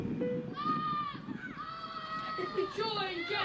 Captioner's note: screams